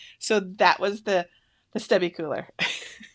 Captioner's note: laughs